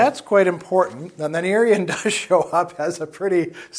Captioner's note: laughs